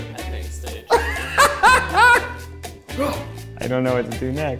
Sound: laughs

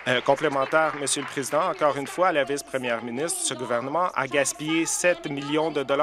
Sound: applause

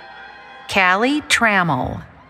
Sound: cheering

